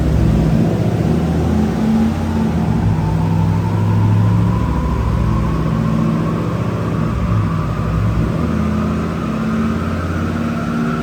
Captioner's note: car engine revving